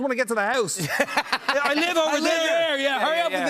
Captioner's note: laughter